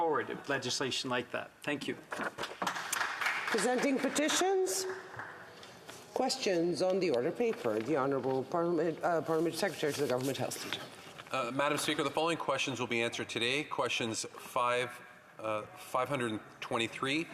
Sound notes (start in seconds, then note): 4.7 some Applause